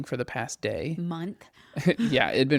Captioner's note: laughs